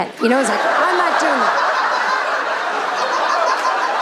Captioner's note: audience laughing